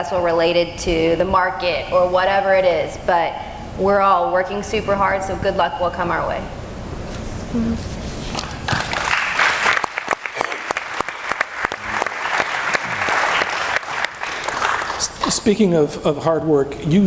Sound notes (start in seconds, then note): 8.7 clapping